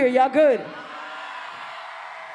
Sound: cheering

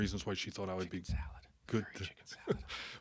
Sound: whispering

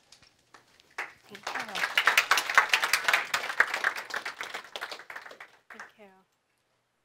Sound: audience clapping

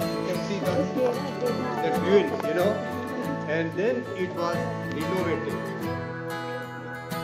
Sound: foreign Language Spoken

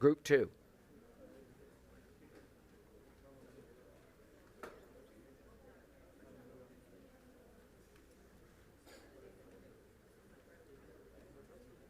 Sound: group chatter

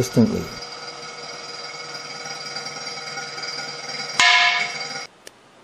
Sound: sound of balloon bursting at 01:38

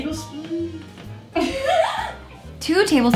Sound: laughing

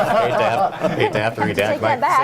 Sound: laughter

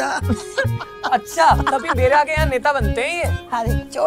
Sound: laughing

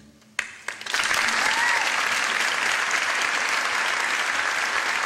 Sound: crowd applauding

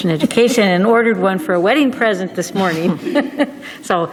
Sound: laughing

